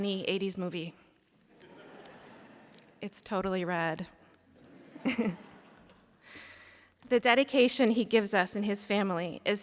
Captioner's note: laughter